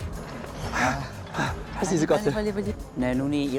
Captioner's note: hearts beating fast